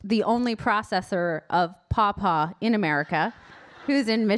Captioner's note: audience laughing